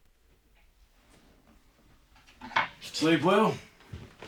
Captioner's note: none